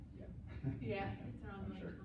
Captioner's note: laughs